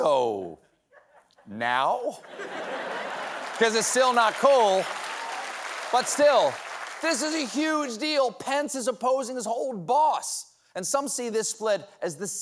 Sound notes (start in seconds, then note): 2.6 applause